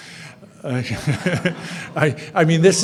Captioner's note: audience laughing